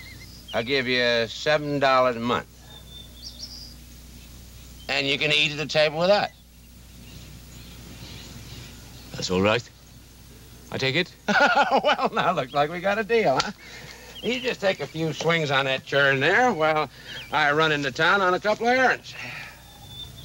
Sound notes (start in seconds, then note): 11.2 chuckles; 20.0 birds singing